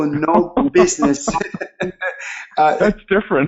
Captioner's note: chuckling